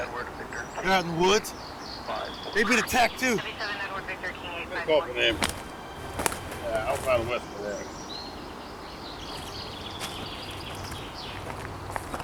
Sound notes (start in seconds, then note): 8.3 birds chirp